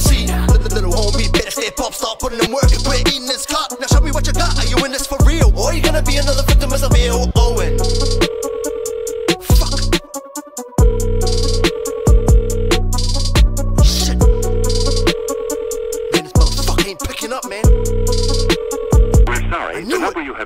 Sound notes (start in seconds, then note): 7.4 phone dials